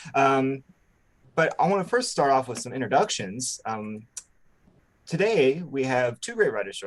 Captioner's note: lips smack